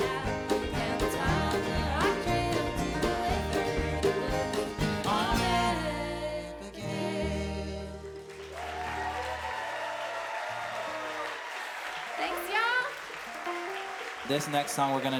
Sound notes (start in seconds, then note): 8.0 audience cheering